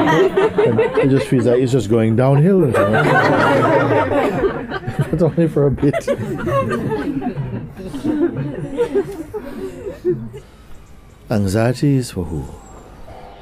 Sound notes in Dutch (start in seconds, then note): 3.3 verder gelach